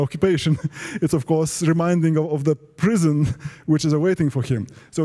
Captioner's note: laugh